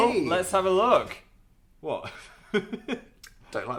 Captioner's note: laughs